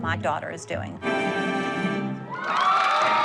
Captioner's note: cheering